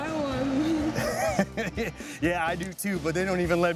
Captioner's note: laughing